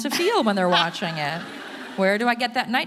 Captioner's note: audience laughing